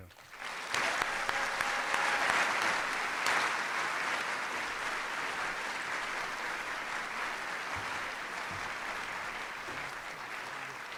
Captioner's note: applause